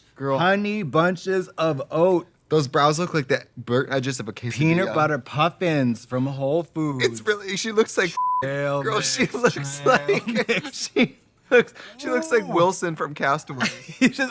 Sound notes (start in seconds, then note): 8.8 both laughing